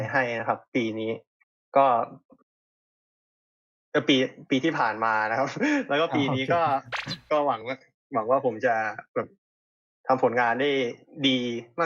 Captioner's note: laughs